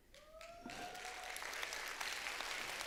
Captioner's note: applause